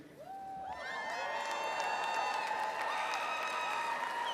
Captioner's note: audience cheering